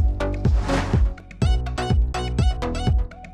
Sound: swoosh

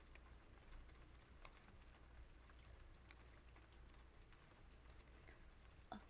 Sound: rain sounds

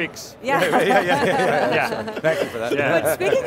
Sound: everyone laughs

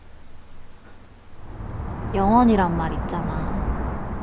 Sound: with external space sound

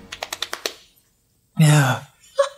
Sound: slaps thighs; sigh

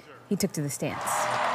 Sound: cheers and applause

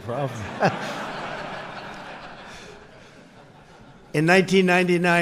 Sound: audience laughs

